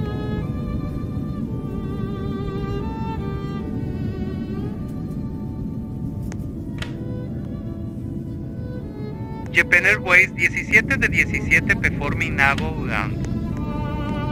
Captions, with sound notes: Japan Airways [Spanish] Performing A Go Around